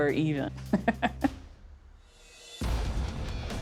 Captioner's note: laughs